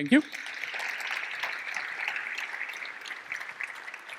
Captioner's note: applause